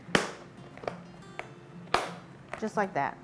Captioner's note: container lid clunking